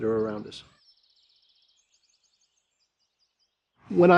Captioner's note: birds chirping